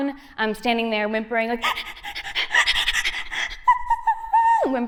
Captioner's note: whimpering